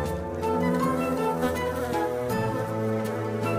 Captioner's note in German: Summen